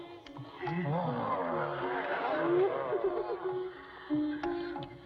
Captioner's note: gasping, Exclaiming Continue